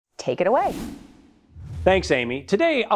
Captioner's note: screen whooshes